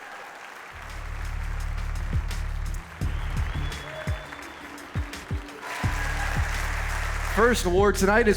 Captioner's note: applause